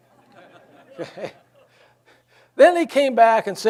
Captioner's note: audience laughs; laughs